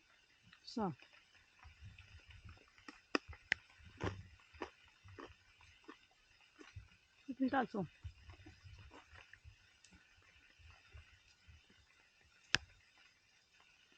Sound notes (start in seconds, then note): 3.0 chewing; 12.1 rain